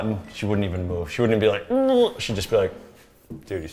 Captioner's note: groans